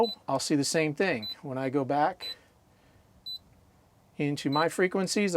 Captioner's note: beeping; beeping